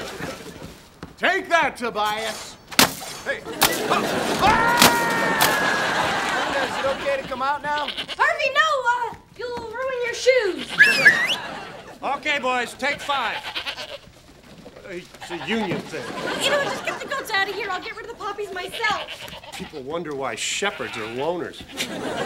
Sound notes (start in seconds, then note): 4.2 yelling; 10.7 whistles